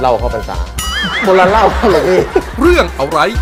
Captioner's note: laughter